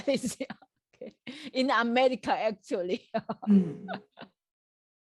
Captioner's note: laughs